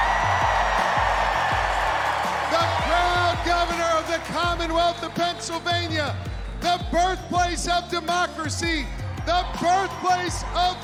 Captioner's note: cheers and applause